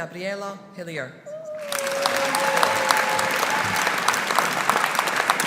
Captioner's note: audience applauding